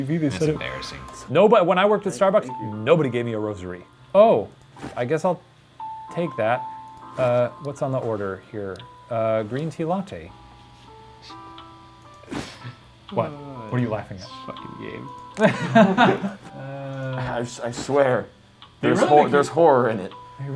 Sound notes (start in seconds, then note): 12.3 chuckling; 15.4 Shane and Ranboo laughing